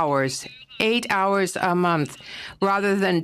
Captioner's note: speaking FRENCH